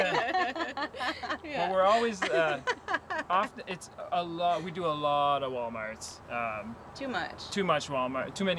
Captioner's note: laughter